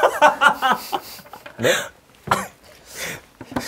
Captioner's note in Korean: 심상치 않은 사원 등장에 터진 웃음